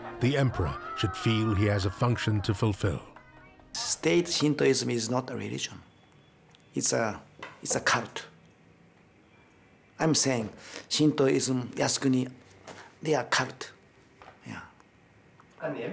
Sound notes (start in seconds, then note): 11.3 speaking in foreign language